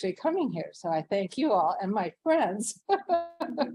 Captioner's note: laughs